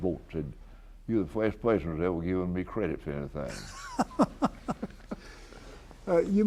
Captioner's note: BOTH laugh